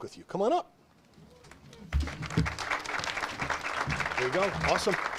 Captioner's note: audience applauds